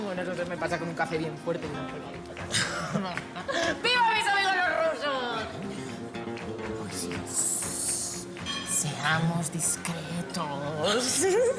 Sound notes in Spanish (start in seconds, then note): 3.4 Risas; 10.9 Ríe